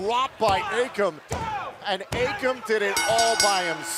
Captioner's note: bell ringing